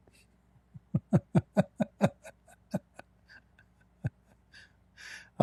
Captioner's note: Ketawa